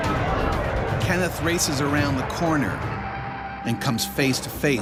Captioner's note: voiceover